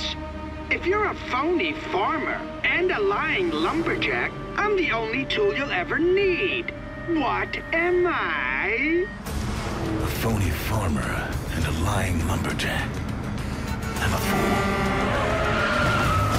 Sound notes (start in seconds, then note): 13.8 car horns honking; 13.8 tires squealing